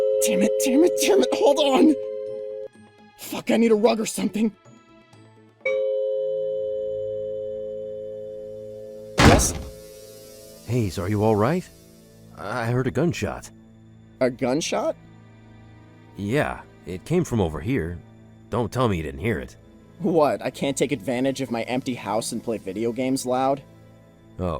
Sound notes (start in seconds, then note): 5.6 doorbell rings; 9.2 slam